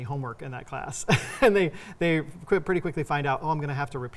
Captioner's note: laughing